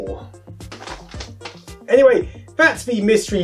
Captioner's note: folding paper sounds